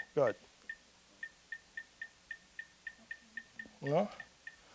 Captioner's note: computer dinging